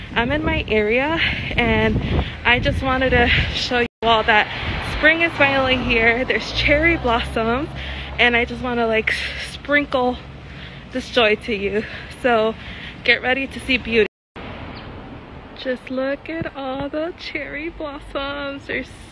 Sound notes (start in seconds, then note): none